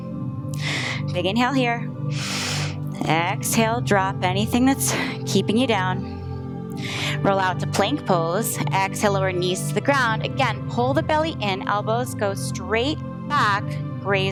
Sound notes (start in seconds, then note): 2.1 inhales